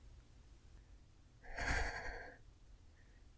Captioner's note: shaky breath